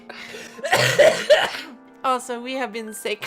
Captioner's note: heavy cough